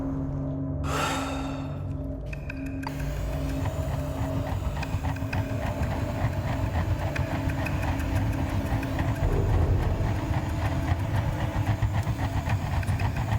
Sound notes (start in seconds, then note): 0.8 sighs; 2.0 suspenseful music